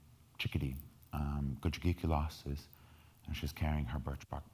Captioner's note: speaking in foreign language